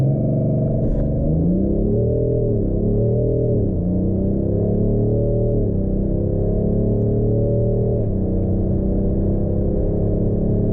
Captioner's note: engine noise, 0-150 km/h